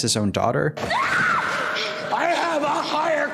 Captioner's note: Willa screaming